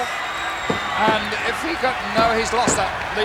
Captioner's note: audience cheering